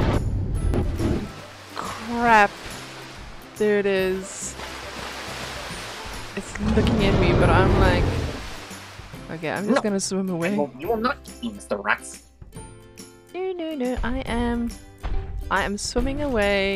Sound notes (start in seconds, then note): 1.6 Wild Rex roars close